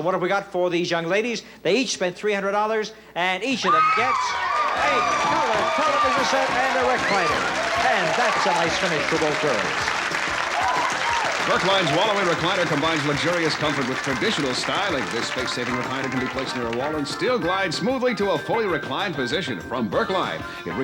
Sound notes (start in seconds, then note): 3.8 contestants scream; 9.8 applause